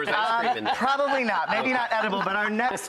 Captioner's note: laughing